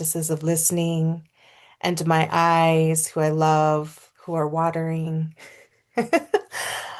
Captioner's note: laughs